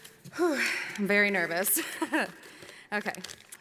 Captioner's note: gasps